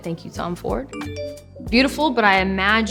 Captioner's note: phone dinging